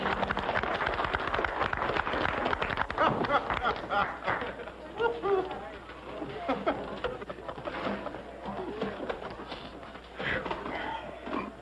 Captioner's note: clapping